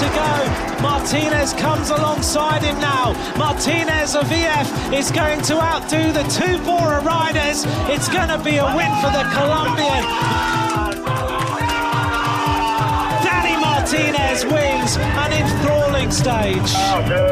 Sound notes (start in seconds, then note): 9.5 cheering